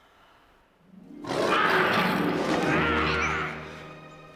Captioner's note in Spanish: suspira; el león gruñe; los niños gruñen